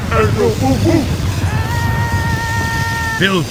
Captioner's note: yelling